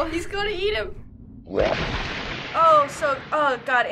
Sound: blood spraying; chomping

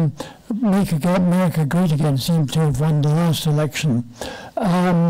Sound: foreign language

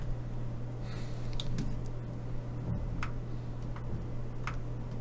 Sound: typing

